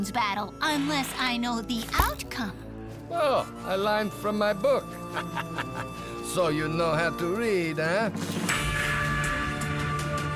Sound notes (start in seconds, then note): 5.0 laughs; 7.7 epic music